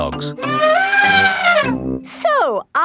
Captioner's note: trumpeting